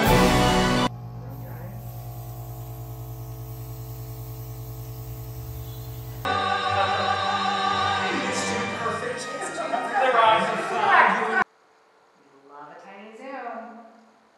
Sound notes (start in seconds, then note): 3.0 hum of airbrush machine